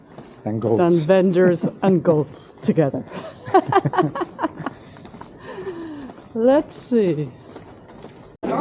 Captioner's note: laughter